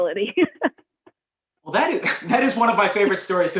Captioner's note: laughter; laughter